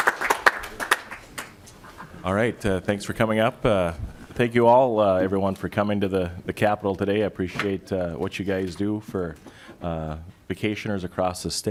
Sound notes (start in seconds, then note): 5.8 applause